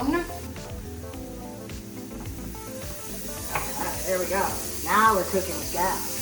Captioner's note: sizzling